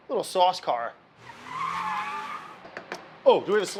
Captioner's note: tires screech; engine revs